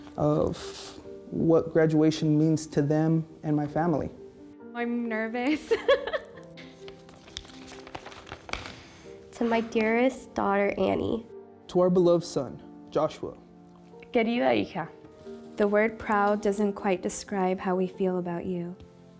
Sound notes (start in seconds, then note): 5.6 laughs